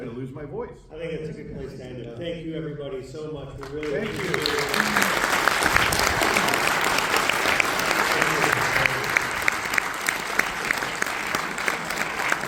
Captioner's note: applause